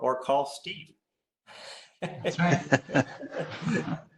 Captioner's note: laughs